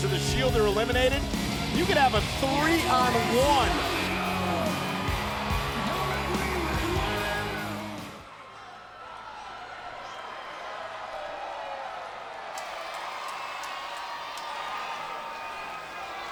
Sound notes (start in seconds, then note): 4.6 audience jeers; 13.3 audience cheers